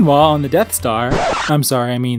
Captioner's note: record scratch